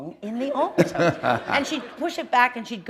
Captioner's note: laughter